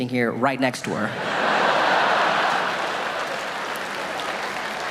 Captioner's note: audience laughing